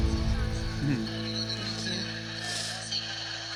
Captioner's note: indistinct chatter